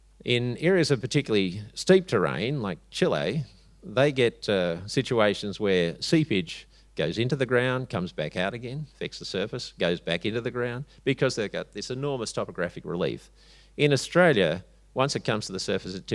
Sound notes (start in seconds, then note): none